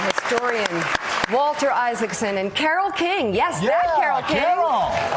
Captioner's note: applause